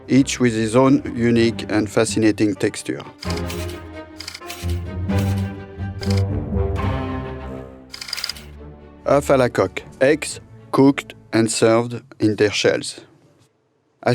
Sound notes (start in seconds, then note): 3.2 whimsical music; 4.3 slide rolling